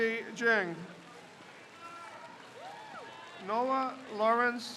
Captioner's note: crowd cheers